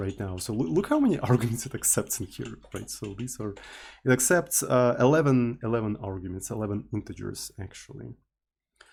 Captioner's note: teakettledrone